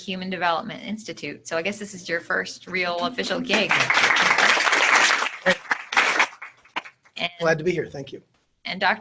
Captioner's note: applause